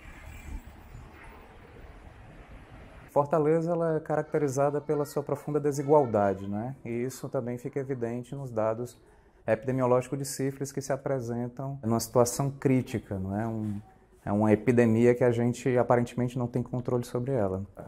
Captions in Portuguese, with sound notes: [Voz masculina] Fortaleza é caracterizada por sua profunda desigualdade. Isso fica evidente nos dados epidemiológicos de sífilis que se apresentam em uma situação crítica. É uma epidemia que aparentemente não temos controle sobre ela.